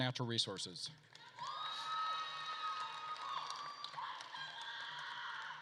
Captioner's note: attendees cheering and applauding